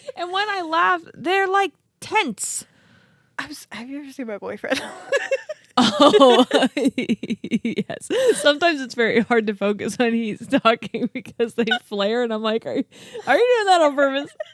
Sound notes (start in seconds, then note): 4.7 laughs